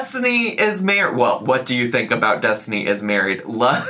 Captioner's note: laughs